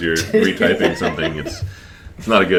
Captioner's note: laughs